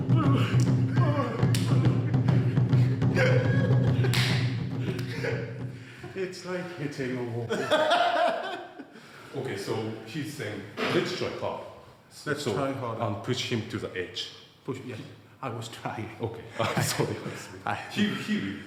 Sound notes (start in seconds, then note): 0.9 laughter; 7.4 laughs; 16.4 chuckles